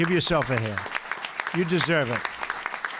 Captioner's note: applause